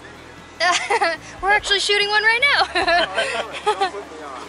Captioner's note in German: Lachen; Gelächter